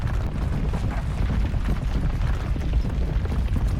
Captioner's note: rumble, rumble, rumble